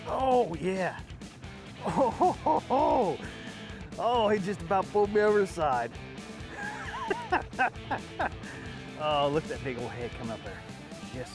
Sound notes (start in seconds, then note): 1.8 laughing; 6.4 laughing